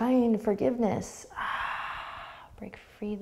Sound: sighing exhale

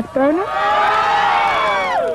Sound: cheering

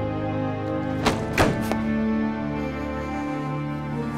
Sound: thudding

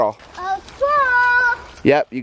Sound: animal noise

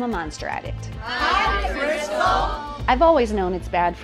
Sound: crowd

